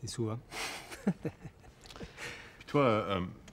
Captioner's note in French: rires